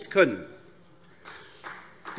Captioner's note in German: Beifall AfD